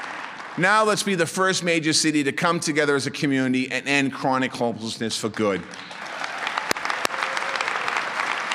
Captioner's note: applause